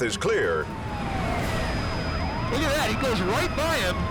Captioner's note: siren wails